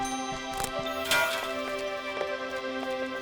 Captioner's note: neck cracks; metal pan drops